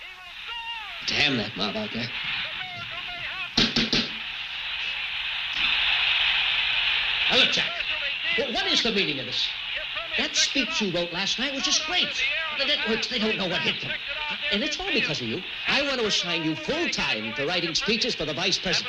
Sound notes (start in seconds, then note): 4.1 TV static crackling